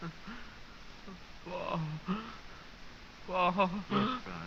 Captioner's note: gasping